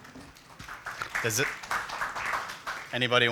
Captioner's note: applause